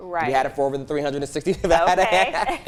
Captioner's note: laughs